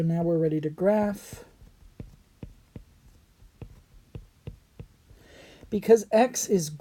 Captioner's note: writing